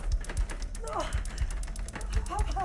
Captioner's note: Sue grunts; Sue muttering